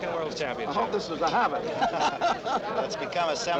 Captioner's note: laughs